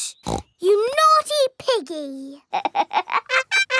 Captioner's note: snorts; laughs